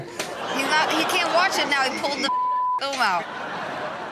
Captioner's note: audience laughing; beep; audience laughing